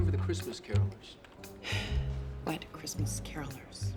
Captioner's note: sighs